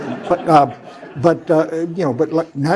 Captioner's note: laugh